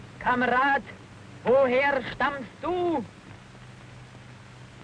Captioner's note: Nazi speaking in German